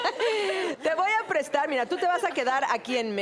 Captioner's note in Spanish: Risas